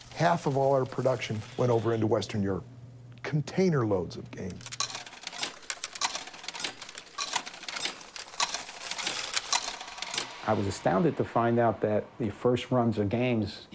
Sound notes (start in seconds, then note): 4.3 coins inserting and cashing out